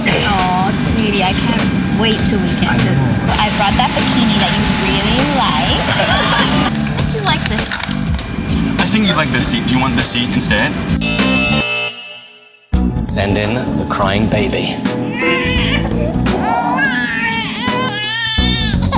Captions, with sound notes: Aww sweetie, I can’t wait till we get there. I brought that bikini that you really like. I think you’ll like this one. I think you’d like this seat, do you want this seat instead? Send in the Crying Baby. [CRYING]